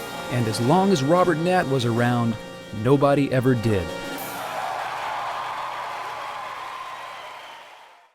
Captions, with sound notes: -And as long as Robert Knatt was around, nobody ever did. [ Thunderous applause and cheering ]